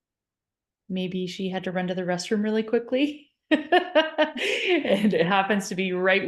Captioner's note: laughs